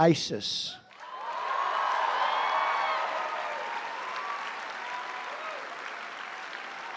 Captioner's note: applause